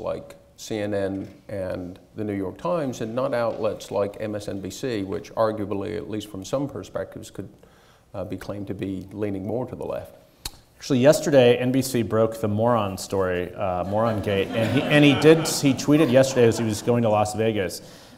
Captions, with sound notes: like CNN and the New York Times and not outlets like MSNBC, which arguably, at least from some perspectives, could be claimed to be leaning more to the left? Actually yesterday, NBC broke the moron story. (audience laughing) Moron-gate and he did, he tweeted yesterday as he was going to Las Vegas